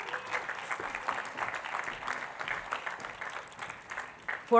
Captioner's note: attendees clapping